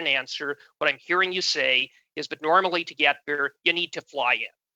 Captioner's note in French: voix de l'interprète